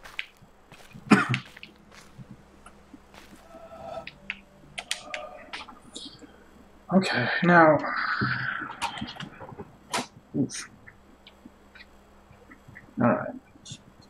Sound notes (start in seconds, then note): 1.0 coughs; 7.8 sighing